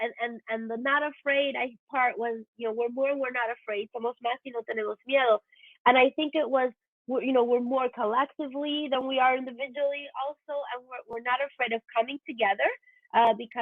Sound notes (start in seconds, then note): 4.2 foreign language